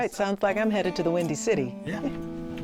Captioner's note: chuckles